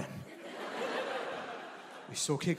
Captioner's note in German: Gelächter